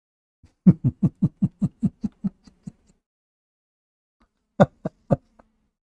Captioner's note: Ketawa